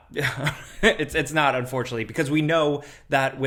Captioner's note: chuckles